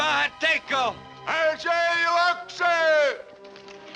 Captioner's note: replies in Native American language; shouts in Native American language